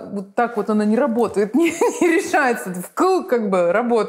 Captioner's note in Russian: смеясь